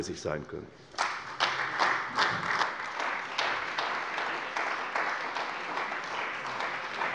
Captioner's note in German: Beifall bei der CDU